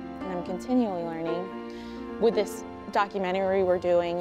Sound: none

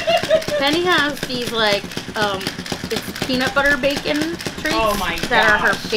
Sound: laughter

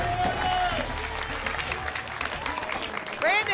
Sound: applause and cheering

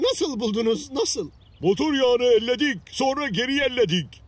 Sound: rhymed in turkish; rhymed in turkish

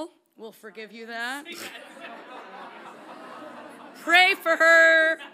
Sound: audience laughs lightly

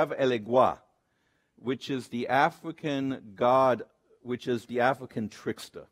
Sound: speaks Spanish; speaks foreign language

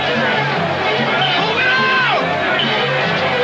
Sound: shouting

